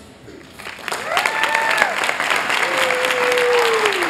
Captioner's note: applause